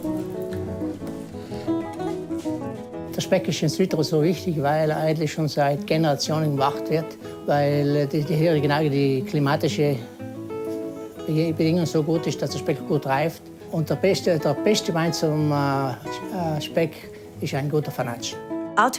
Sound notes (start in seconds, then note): 0.3 playful guitar music; 3.1 speaking German